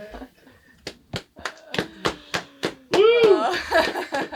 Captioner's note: group clapping